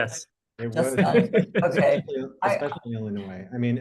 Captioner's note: laughing